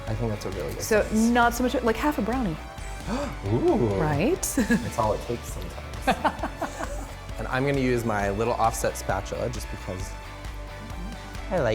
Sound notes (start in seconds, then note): 6.0 laughter; 6.0 hearty laughter